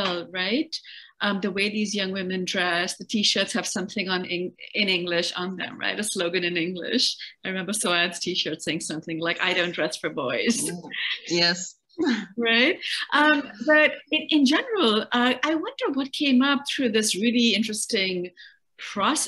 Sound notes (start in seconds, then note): 10.5 laughs